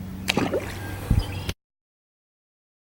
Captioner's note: splash sound